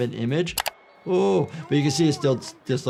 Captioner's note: keyboard clicking